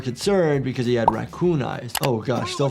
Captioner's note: bubble popping; button clicking